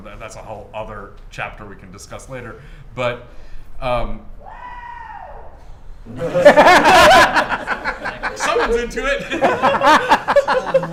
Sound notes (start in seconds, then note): 4.4 whoop in distance; 6.1 laughter